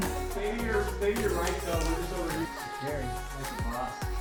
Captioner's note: muffled chatting